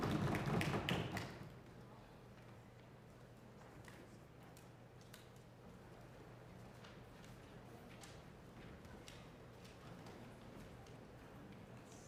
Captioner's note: applause